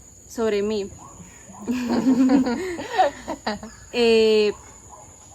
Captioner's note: laughs